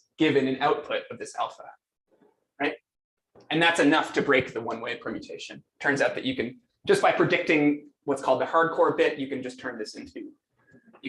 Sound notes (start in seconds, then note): none